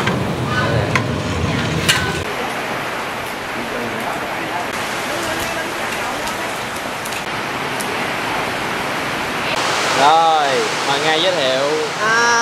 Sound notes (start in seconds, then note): 2.4 heavy rain